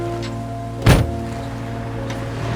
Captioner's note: door thuds